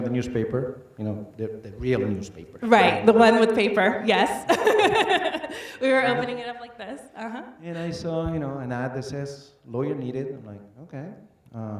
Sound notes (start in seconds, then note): 4.4 laughs